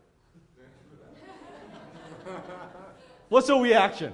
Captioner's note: audience laughs